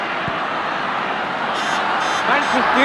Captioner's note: partizan crowd shouting